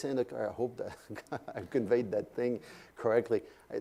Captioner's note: laugh